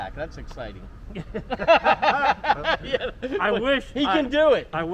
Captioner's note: both laughing